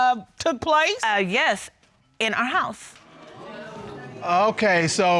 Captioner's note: audience exclaims